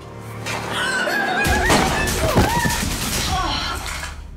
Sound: gun firing

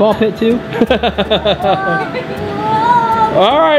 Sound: laughs

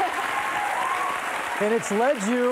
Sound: cheers and applause

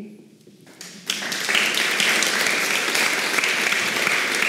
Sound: audience applauds

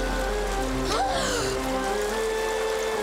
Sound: gasping

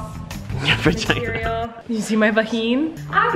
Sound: laughs

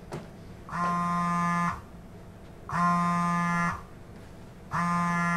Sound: cell phone buzzing

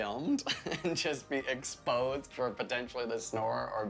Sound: laughter

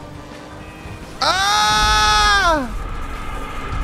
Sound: screaming

